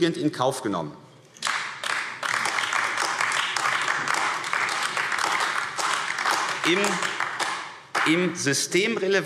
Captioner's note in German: Beifall AfD